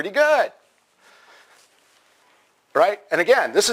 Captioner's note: pause